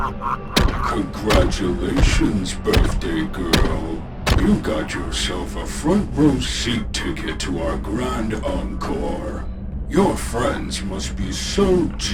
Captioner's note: heavy, robotic footsteps can be heard; sinister, deep laughter